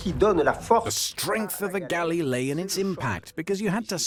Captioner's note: voiceover